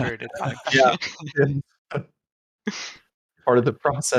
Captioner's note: laughter